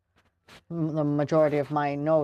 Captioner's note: speaking French